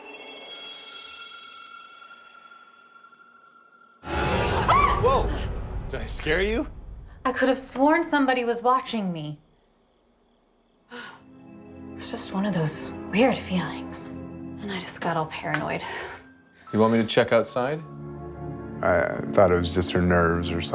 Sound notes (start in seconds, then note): 4.5 Whitney screams